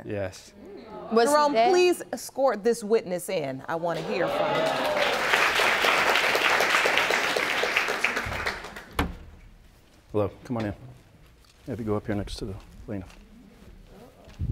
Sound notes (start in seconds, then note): 4.3 audience applauding